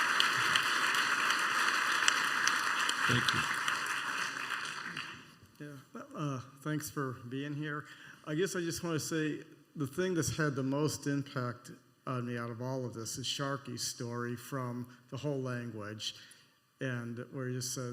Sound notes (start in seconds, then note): 5.0 applause